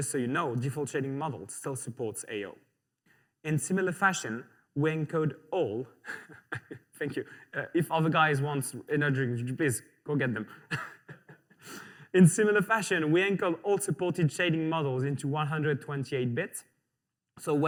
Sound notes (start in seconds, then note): 6.0 laughs